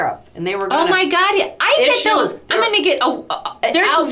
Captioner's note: stammers